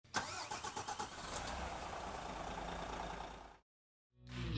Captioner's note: engine starter revving